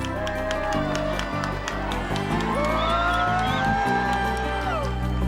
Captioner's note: crowd cheering